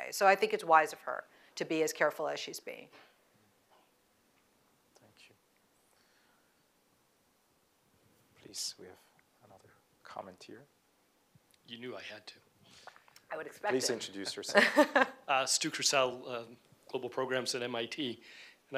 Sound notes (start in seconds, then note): 14.5 laughs